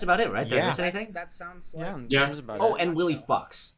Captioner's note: general agreement